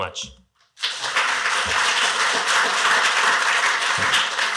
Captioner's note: applause